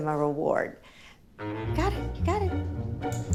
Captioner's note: clicks